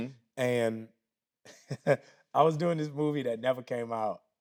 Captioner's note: chuckles